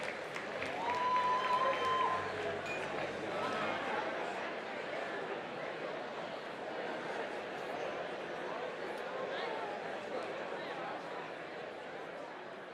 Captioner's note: applause